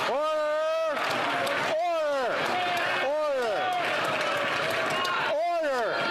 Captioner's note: some Applause